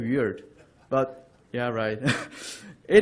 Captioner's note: laughter